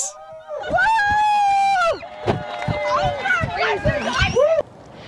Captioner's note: woman cheers and whoops